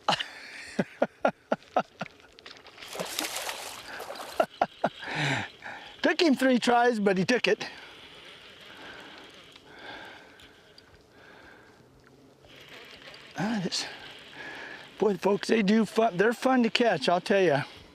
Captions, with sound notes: [laughter] [splash] [laughter] it toke him three tries nut he toke it boy folks they are fun to catch I will tell ya!